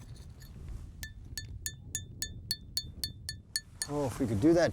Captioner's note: clink, clink, clink